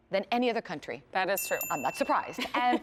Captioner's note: ding ding